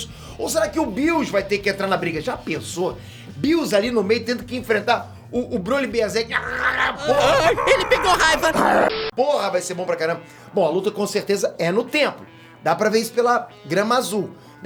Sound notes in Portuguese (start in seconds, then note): 6.2 rosnando